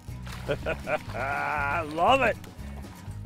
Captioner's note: laughing